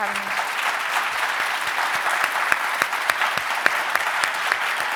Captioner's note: audience applauds